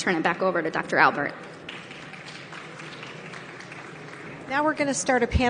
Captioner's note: audience applauding